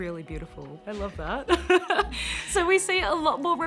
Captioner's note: chuckles